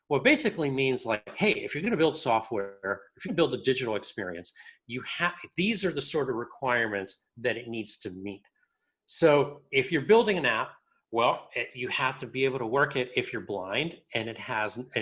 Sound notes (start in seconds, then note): none